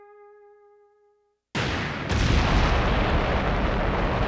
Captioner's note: explosions burst